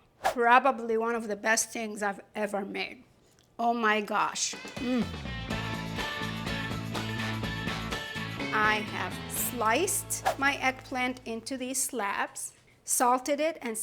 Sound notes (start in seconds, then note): 4.5 upbeat music; 4.7 mmm